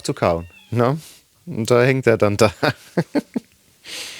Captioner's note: laughing